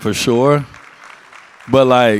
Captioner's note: audience applauds